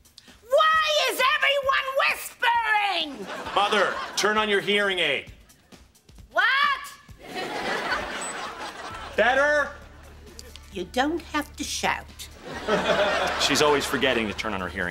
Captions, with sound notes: Why is everyone whispering?! Mother, turn on your hearing aid. What?! [beeping] Better? You don't have to shout. She's always forgetting to turn on her hearing aid.